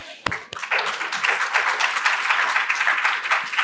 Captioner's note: applause